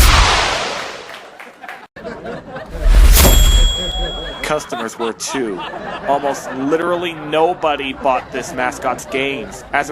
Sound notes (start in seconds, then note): 2.1 customers laughing